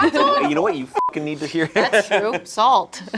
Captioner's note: beep